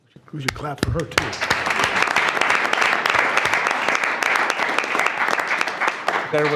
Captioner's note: attendees clapping